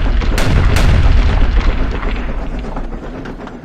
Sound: gunshots ringing out

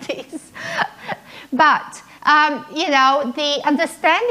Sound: laughing

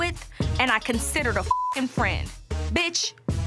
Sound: beep

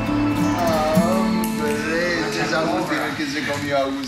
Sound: men speaking in Spanish

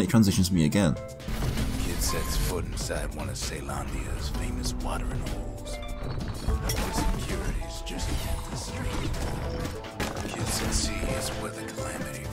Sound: in-game audio

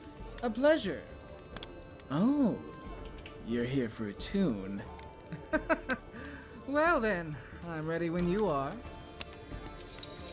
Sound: dry laugh

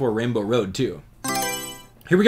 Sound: Mario Selection Sound

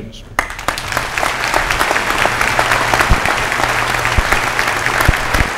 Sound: applause

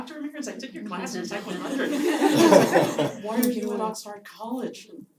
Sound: laugh

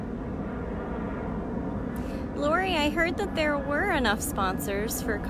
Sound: aircraft noise

